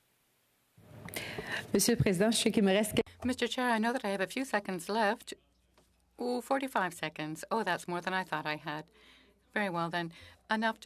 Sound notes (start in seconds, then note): 5.6 speaking French